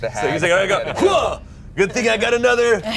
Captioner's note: grunts